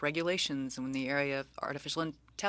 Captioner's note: speaking french